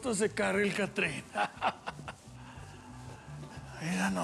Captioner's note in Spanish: risas